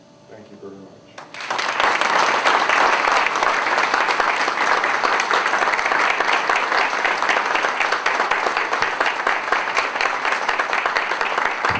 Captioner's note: applause